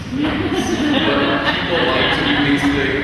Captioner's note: laughing